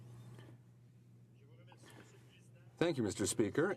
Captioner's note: speaking in french